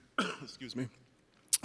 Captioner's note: coughs